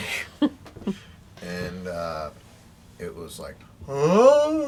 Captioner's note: chuckling; howls